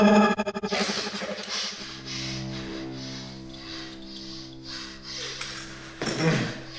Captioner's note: heavy breathing